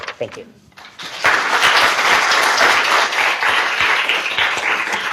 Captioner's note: audience applauding